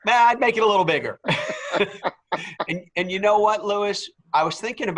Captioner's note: laugh